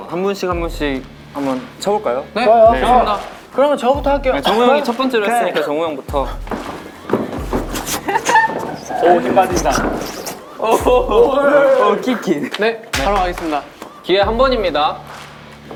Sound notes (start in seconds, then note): 10.0 swoosh